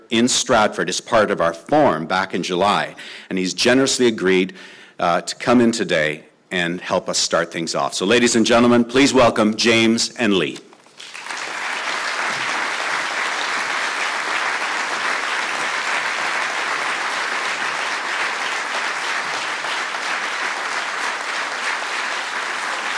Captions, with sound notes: in Stratford as part of our Forum back in July and he's generously agreed to come in today and help us start things off. So ladies and gentlemen, please welcome James and Lee. (Applause)